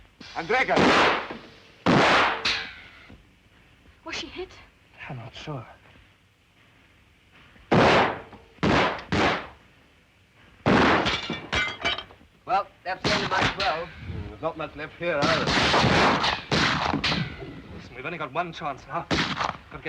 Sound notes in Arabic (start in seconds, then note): 0.2 إطلاق نار; 1.8 اطلاق نار; 8.6 طلقات نارية; 10.7 طلقات نارية وزجاج محطم; 15.2 إطلاق نار; 19.2 طلقة نارية